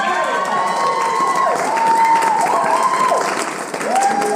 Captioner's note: applause